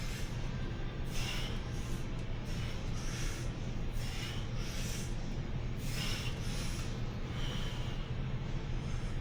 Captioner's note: breathing